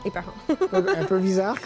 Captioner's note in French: rire